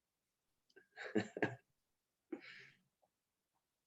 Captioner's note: giggling